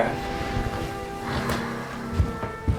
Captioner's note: sigh